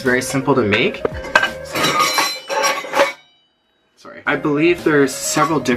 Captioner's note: dishes clanging